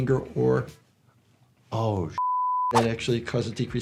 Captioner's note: beep